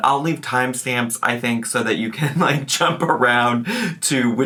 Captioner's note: laughs